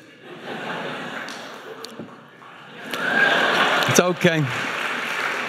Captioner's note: audience laughing